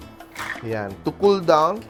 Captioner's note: clatters